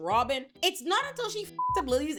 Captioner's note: beep